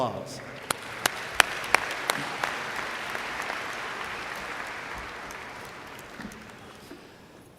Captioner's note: applause